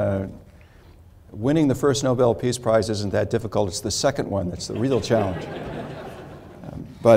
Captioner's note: laughter